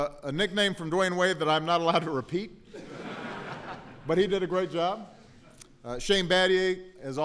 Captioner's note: laughter